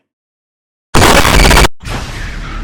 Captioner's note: static noise